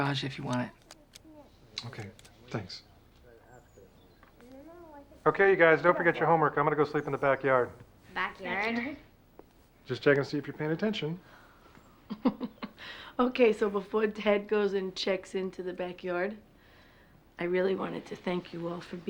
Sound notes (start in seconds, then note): 12.0 laughs